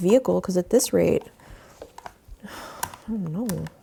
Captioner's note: sighs